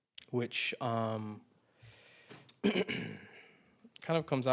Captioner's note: clears throat